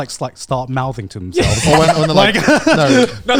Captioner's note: everyone laughs